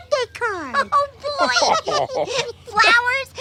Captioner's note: laughter